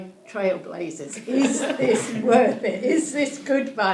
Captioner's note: crowd laughing